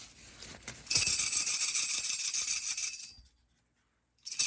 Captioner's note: bells jingle